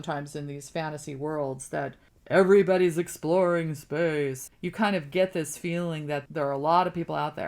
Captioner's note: deep voice